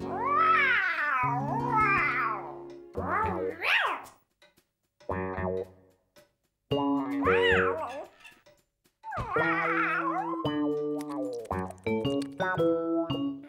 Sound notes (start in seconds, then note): 11.0 nibbling